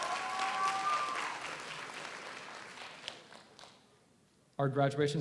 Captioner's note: audience cheers; audience applauds